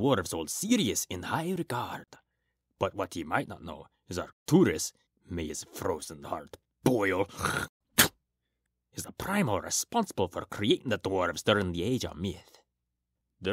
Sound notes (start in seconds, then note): 7.3 spits